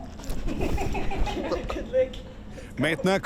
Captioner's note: laughs